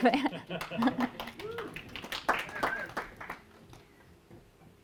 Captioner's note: applause